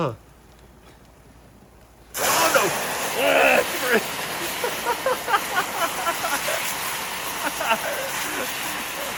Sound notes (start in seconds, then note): 2.1 loud fizzing; 4.7 laughing